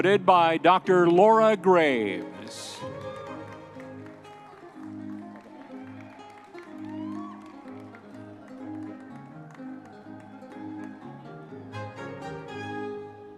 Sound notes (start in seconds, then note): 2.9 audience members cheering